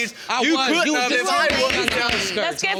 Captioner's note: gavel pounding